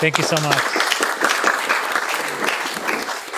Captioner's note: applause